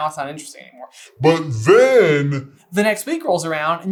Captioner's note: deep voice